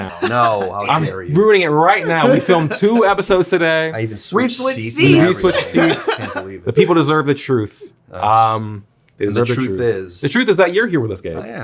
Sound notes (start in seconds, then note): 0.0 laughs; 1.9 Zack laughs; 5.0 Zack laughs